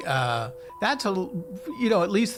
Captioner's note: device beeping